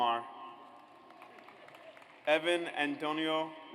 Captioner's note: audience applauds